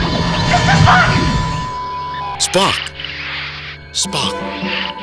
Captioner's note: Transporter Hum Starts to arc and zap loudly!; screams